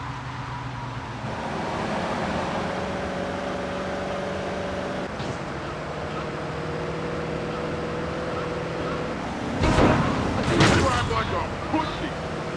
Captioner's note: muffled yelling